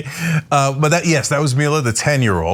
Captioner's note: laugh